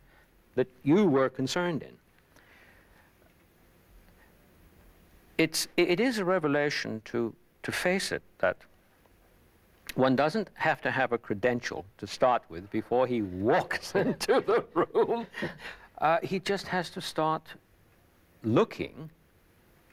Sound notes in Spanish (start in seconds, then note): 13.6 Risas